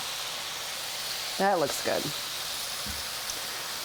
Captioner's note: pan sizzling